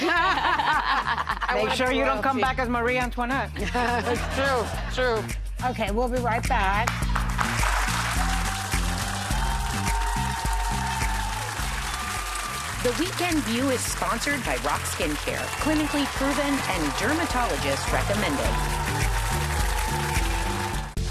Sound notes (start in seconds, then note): 0.0 laughing; 7.4 audience applauding